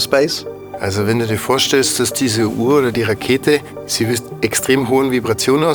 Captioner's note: speaks German